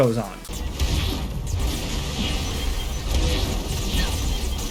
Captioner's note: magic whirs